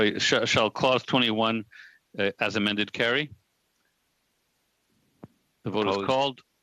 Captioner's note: speaking French